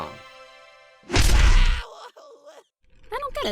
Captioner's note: test tube screams